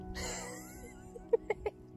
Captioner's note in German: Lacht